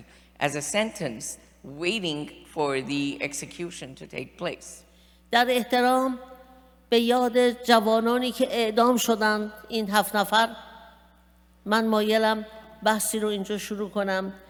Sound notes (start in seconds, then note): 5.2 speaking persian